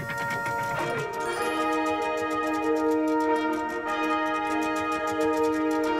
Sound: chain clicks as treasure is lowered

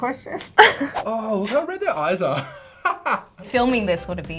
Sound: laughs

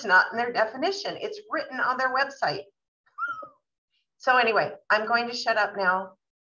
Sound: whistle

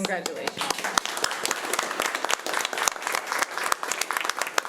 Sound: applause

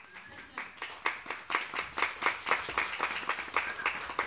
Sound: applause

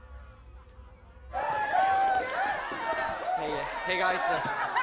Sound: cheering

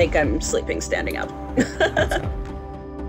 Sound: group laughs

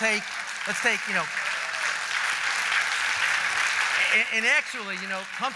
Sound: applause

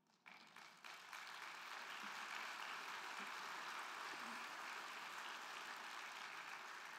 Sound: crowd clapping; crowd cheering

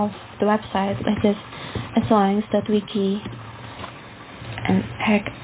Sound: typing on keyboard

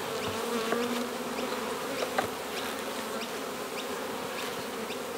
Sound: bees buzzing

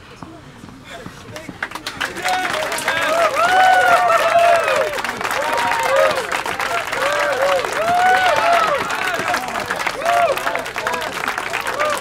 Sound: applause

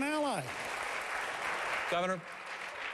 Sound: applause

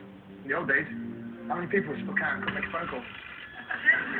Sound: phone rings

